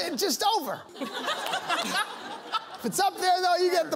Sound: laughter

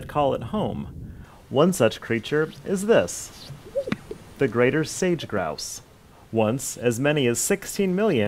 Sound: animal noise

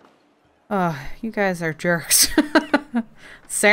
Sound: laughs

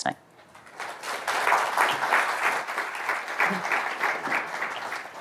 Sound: audience applauds

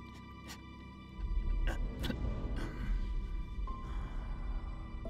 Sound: Gabriel coughs

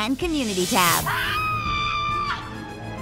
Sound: screaming

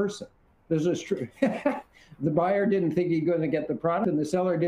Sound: laughs

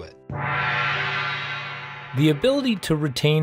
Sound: gong rings

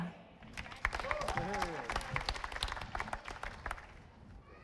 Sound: audience applauding

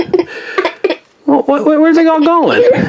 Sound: assistant laughs

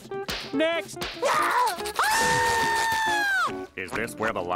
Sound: screaming

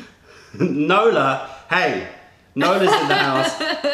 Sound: laughter

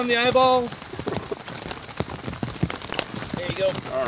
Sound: rain pouring

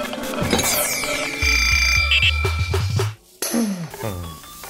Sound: bell Rings

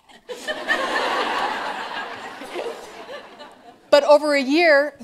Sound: laughter

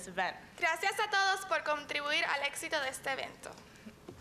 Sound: speaking in spanish

